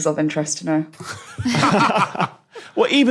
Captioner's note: group laughing